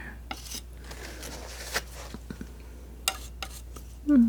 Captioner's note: metal scraping